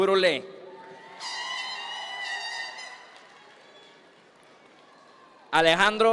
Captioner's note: audience members cheer; air horn blares